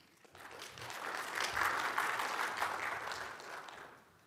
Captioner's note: audience applauding